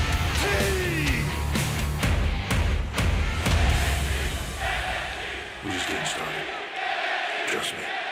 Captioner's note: crowd cheering